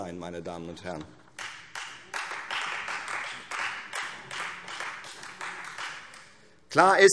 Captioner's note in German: Beifall Freie Demokraten